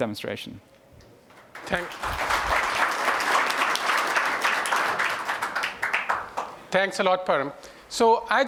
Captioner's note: applause